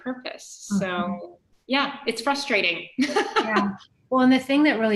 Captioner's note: laughing